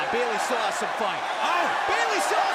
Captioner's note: crowd cheering